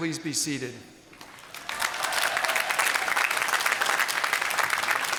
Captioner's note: applause